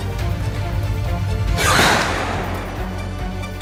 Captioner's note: gunshot fires